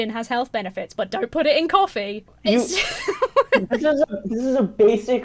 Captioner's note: laughs